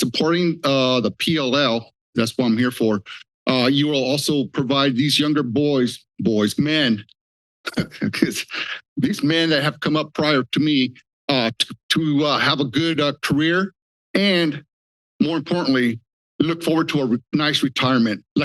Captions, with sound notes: and by supporting the PLA, that's what I'm here for, you'll also provide these younger boys, men, [laughter] because these men that have come up prior to me, have a good career and more importantly, look forward to a nice retirement like I am